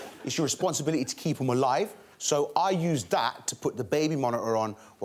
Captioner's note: none